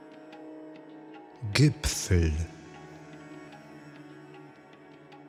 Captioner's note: german